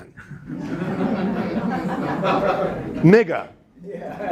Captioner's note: students laughing